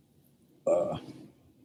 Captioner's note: groans